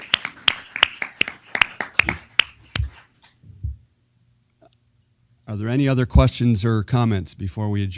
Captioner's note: applause